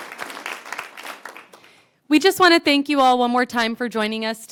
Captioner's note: applause